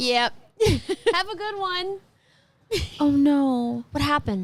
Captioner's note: laughing; laughs